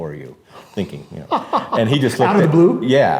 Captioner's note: laughs